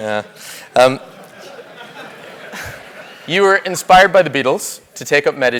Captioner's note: laugh